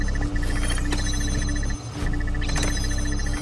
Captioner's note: sound effect chiming